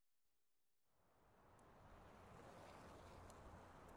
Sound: traffic passing

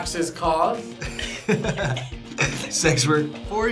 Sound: both laugh

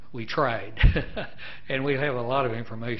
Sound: laughing

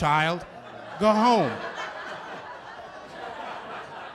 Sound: laughter

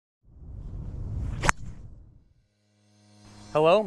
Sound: golf ball cracks

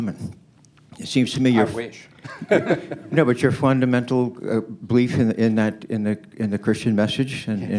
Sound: laughter

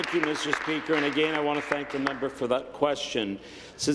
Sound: applause

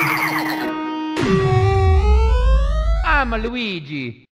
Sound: jump sound; slowdown sound

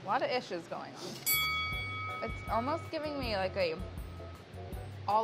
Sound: ding

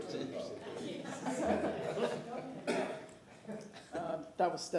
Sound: laughter

